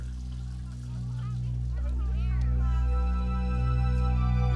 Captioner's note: indistinct chatter